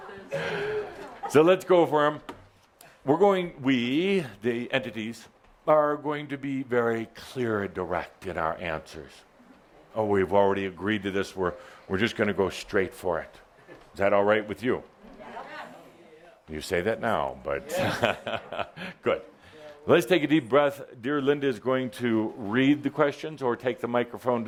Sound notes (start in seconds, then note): 17.6 Adamus chuckles